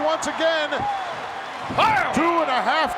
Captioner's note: audience cheering